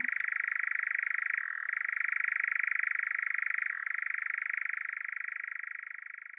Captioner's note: nightjar churring